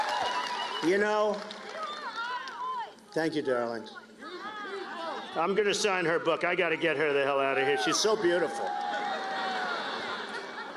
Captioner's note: cheers and applause